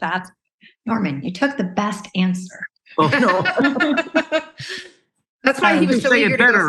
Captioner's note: laughing